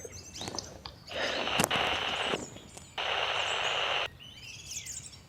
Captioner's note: radio beeps